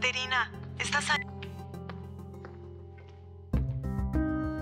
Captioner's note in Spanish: Bip